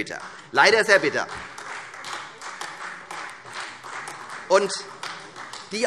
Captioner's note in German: Beifall